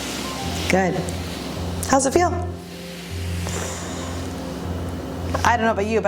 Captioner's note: exhales